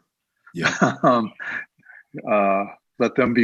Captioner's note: laughs